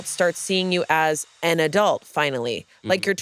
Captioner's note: none